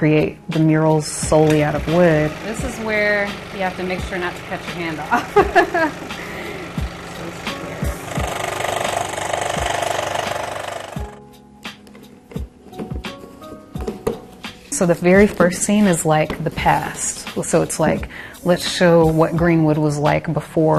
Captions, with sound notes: that I create the murals solely out of wood. This is where you have to make sure not to cut your hand off. (laughs) (saw whirring) So the very first scene is like the past. So it's like, let's show what Greenwood was like